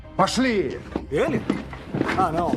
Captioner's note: in English